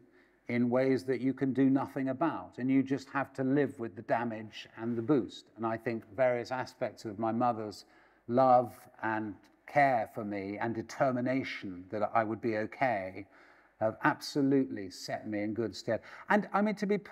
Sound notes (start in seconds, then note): none